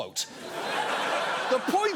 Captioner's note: studio audience laughing